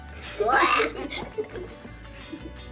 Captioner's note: laughing